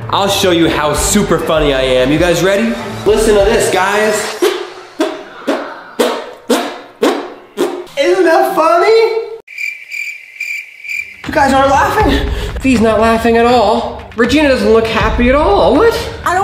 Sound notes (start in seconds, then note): 5.9 fart noises; 9.4 crickets